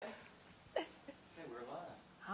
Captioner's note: laughs